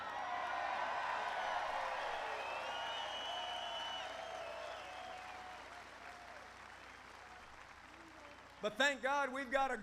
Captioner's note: applause